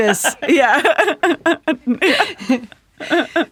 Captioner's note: laughing